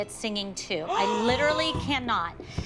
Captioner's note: gasps